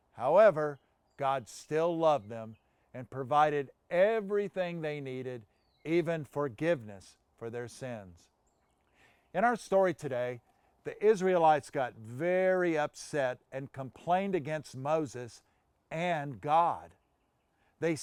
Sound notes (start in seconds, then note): none